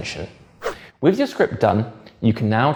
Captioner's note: page whips